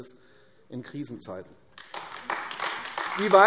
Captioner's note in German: Beifall AfD